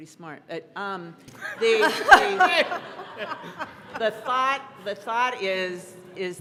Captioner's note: laughter